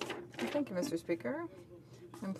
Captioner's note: speaking French